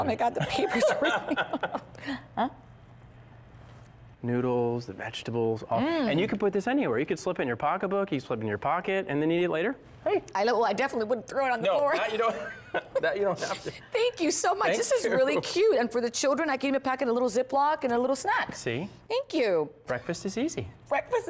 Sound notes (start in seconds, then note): 11.9 laughter